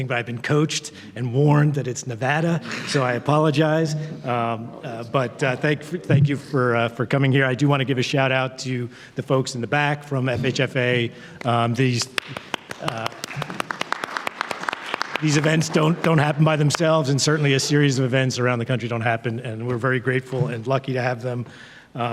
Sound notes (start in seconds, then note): 12.0 panel members applauding; 12.1 audience applauding